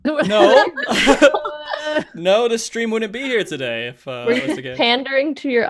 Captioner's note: laughs